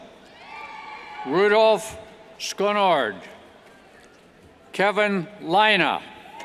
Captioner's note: cheers